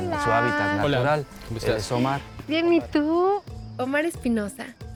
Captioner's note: speaking Spanish